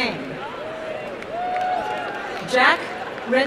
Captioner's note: applause and cheering